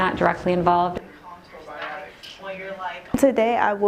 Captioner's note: group chatter